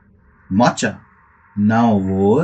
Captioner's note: poof!